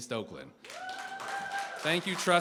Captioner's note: cheering, applause